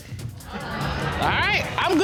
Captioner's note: audience laughing